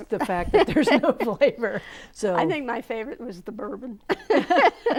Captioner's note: laughing